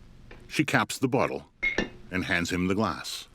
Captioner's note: bottle clinking